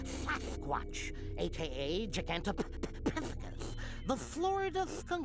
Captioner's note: stuttering